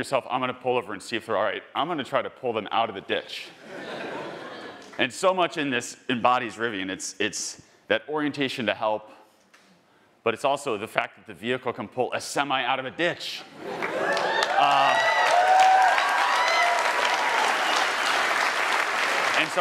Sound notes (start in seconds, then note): 3.6 attendees laughing; 13.7 attendees applauding and cheering